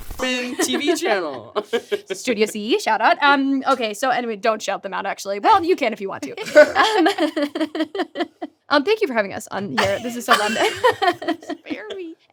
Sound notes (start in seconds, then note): 6.3 laughs; 9.7 laughs